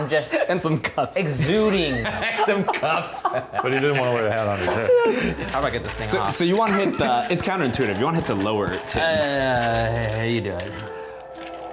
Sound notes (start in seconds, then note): 1.4 laughs